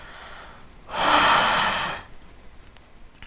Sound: exhale

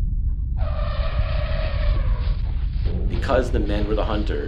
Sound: distant rumbling; mammoth trumpeting

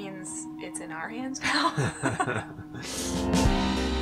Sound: nervous Laughter

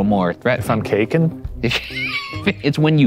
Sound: laughing

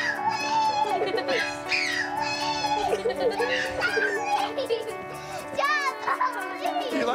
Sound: laughter

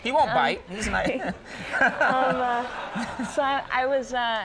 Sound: audience laughs; Conan laughs

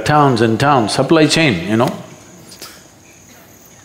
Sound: laughs

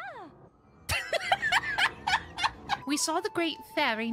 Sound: laughter

